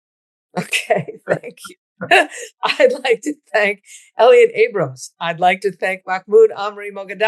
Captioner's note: laughs